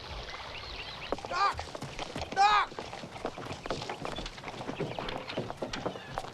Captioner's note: horses clopping